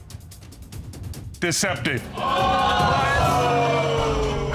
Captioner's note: exclaiming